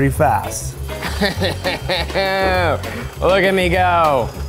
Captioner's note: laughs